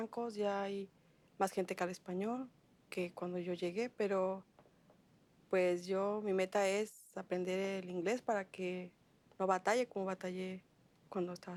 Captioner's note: speaking world language